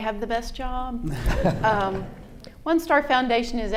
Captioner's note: audience laughing